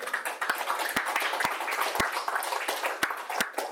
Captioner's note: audience applauds